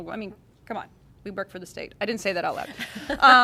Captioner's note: laughter